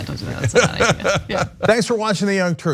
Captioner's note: laugh